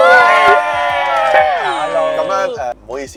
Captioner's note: clapping